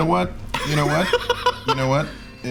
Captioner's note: laughing